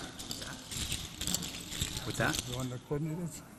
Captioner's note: beads clinking